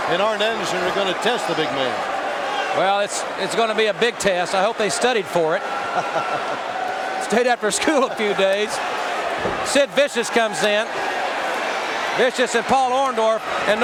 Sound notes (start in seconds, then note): 6.1 Bob chuckling